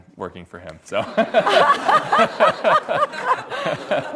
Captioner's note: everyone laughs